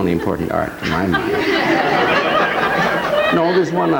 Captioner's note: audience laughing